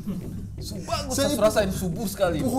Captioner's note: laughing